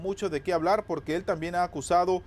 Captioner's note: HABLAN EN INGLéS